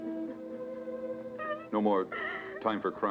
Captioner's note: Pilar crying